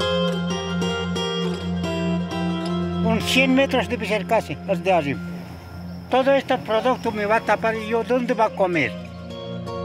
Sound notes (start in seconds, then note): 3.4 speaking in foreign language